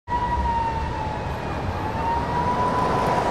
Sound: siren wailing

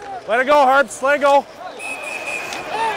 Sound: whistle sounds

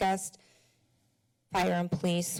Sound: pause

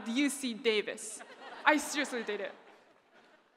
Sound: laugh

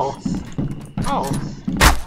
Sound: door closes

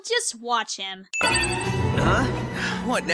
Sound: beep

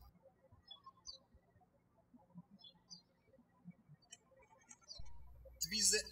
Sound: birds chirping

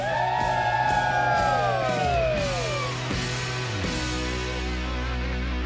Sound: crowd cheers

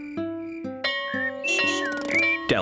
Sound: bell rings

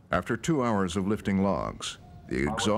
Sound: voiceover

